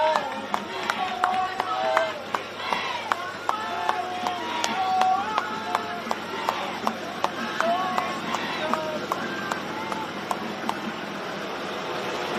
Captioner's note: cheering and applause